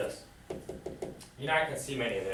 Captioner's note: taps blackboard